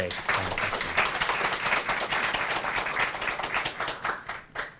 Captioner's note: applause